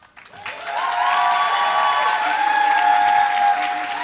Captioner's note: applause